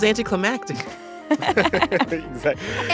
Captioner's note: laughter